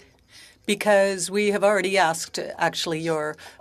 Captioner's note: speaking French